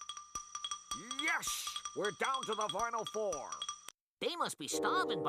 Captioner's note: imitating Marv Albert